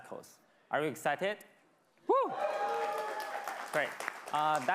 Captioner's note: crowd clamoring and clapping